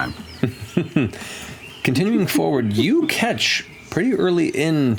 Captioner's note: chuckles